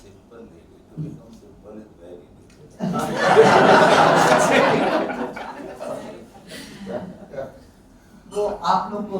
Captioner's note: laughs